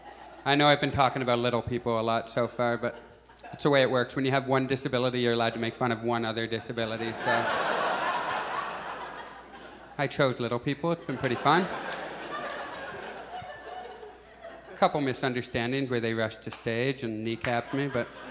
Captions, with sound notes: I know I've been talking about little people a lot so far but, that's the way it works. When you have one disability, you're allowed to make fun of one other disability, so. [Audience laughs] I chose little people it's been pretty fun. [Audience chuckles] A couple misunderstandings where they rushed to stage and kneecap me but,